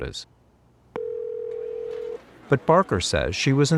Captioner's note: phone ringing out